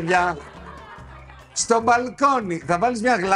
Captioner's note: laughter